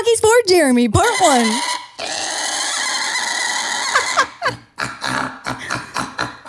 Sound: pig squealing and oinking

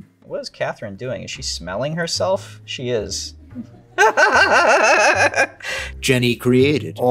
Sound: laughs

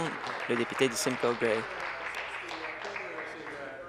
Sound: applause

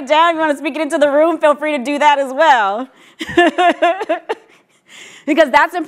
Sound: laughs

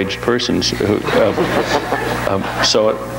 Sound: audience laughs

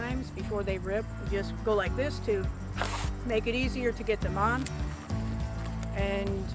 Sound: blows in glove

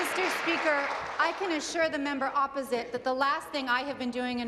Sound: applause

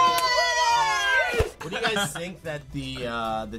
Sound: cheering

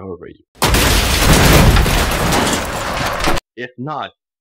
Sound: vehicles crashing

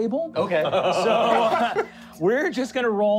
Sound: laughing

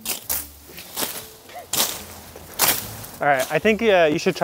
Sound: machetes whipping

